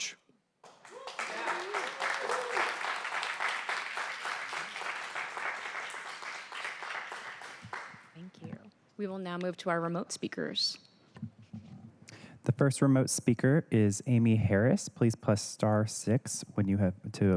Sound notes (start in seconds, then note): 4.9 applause